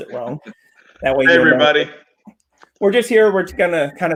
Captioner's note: chuckles